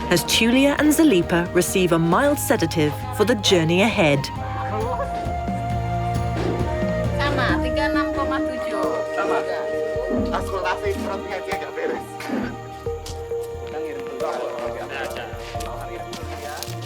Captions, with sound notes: as Tulia and Zalipa receive a mild sedative for the journey ahead. (uplifting music) - (in foreign language). - (in foreign language). (light upbeat music)